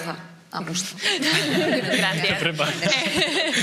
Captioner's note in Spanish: alguno ríen